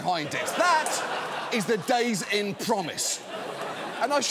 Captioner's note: studio audience laughs